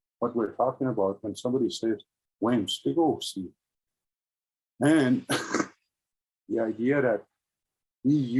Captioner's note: speaking in Indigeous language